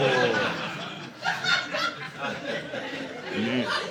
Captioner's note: audience laughing